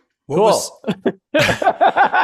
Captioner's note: laughs